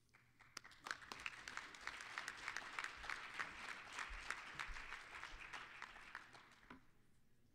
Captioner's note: applause